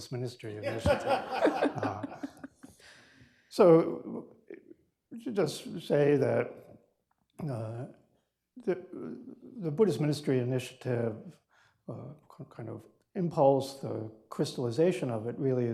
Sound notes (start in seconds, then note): 0.6 laughter